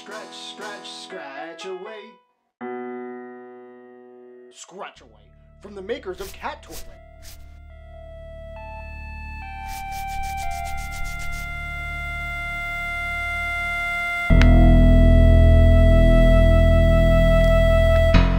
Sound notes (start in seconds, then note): 9.6 scratching; 12.3 intense electronic music